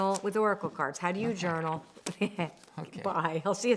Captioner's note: giggles